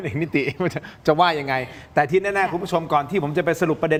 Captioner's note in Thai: เสียงหัวเราะ